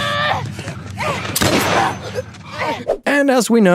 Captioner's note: gunshot